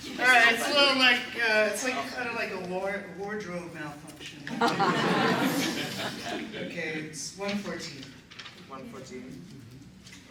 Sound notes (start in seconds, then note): 4.5 laughter